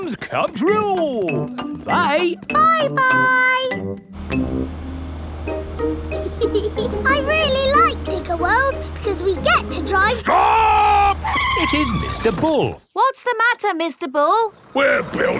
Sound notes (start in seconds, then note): 6.2 george chuckling; 11.9 tires screeching